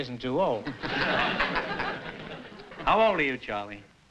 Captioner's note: laughter